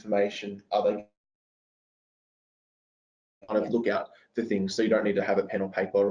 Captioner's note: audio distorts